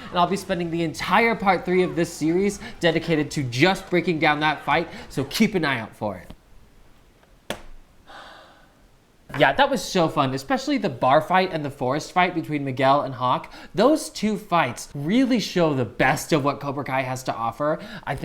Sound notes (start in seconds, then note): 8.0 exhales